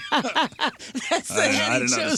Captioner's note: laughing